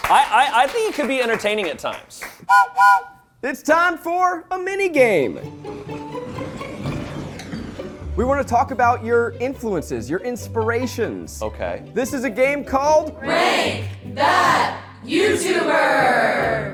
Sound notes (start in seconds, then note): 2.4 whistle blows; 6.4 whimsical music